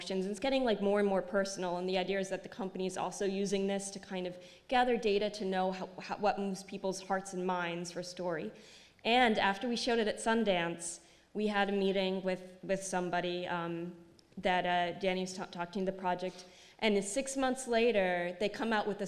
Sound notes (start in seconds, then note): none